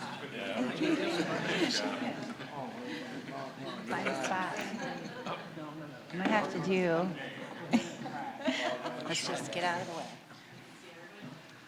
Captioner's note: general chatter